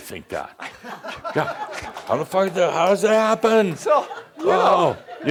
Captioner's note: laughter